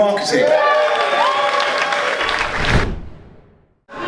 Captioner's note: audience cheering and applausing; air whooshing